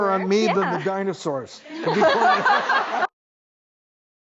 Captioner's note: laughing